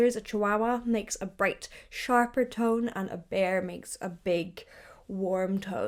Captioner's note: none